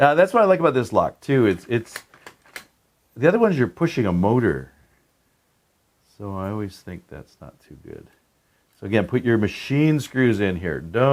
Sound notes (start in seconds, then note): 1.9 lock clicking